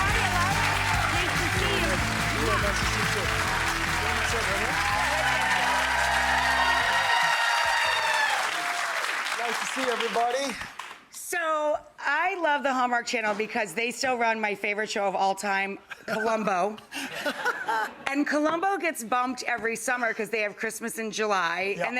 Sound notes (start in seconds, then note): 3.4 audience clapping; 6.4 audience cheering and clapping; 17.0 laughing